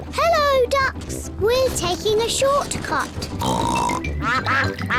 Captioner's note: ducks quack; snorts